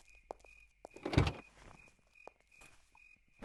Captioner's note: car Door Opens